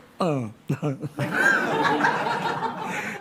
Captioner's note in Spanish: Risas